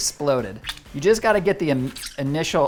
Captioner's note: tomatoes squishing